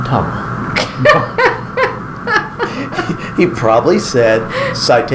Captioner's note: laughing